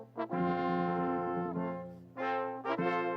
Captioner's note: none